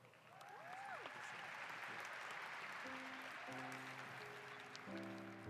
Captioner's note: applause